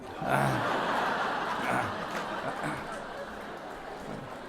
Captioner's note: audience laughs